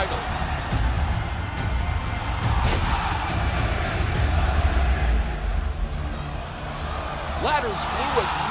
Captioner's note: crowd cheering